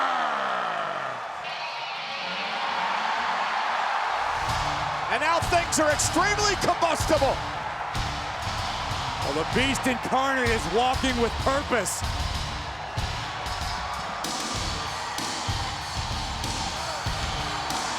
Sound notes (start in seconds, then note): 1.9 crowd cheering; 1.9 rock music; 12.6 rock music; 14.9 crowd cheering